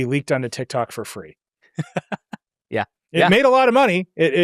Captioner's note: laughs